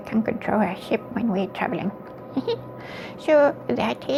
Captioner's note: giggles